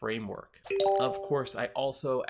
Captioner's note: bell rings